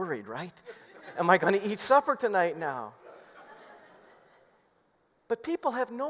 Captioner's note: laughter